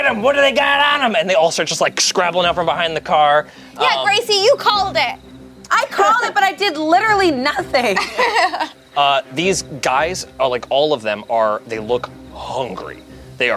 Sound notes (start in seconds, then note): 7.7 laughs